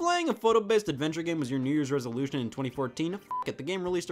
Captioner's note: beeps